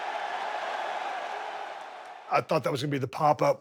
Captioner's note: crowd cheers